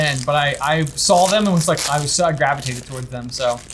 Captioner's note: none